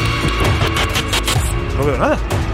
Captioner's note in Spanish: Distorsión del sonido